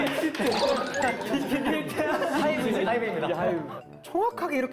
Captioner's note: laughing